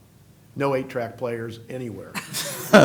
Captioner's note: laughter